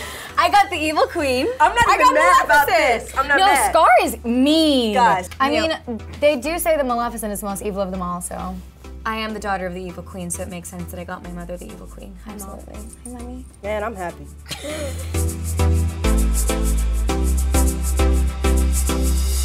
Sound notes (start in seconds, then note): 14.4 Sofia laughs; 14.7 upbeat electronic music